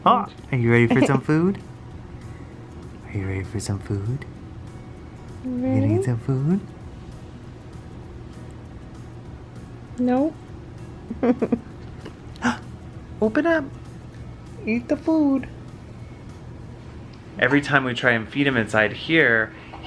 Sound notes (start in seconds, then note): 11.1 laughs; 12.8 gasps